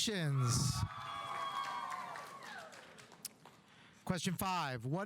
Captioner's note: audience cheering; audience applauding